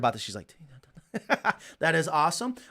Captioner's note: speaking faintly